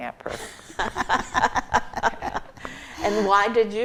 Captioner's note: group laughs